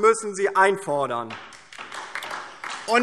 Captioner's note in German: Beifall DIE LINKE und vereinzelt SPD